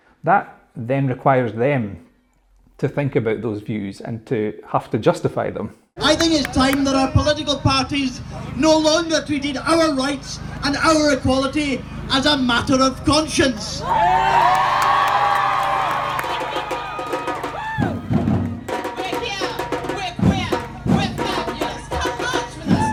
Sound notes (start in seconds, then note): 13.6 cheers and applause